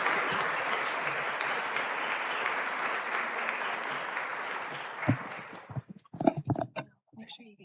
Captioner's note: applause